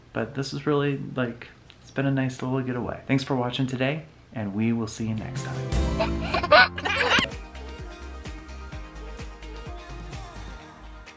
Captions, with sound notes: But this is really-- It's been a nice little getaway. Thanks for watching today and we will see you next time. (baby laughing) (upbeat music)